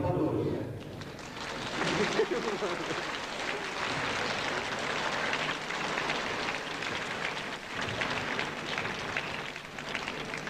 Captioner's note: applause